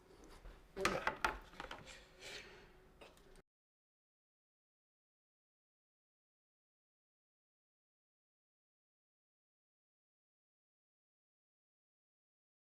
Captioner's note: silence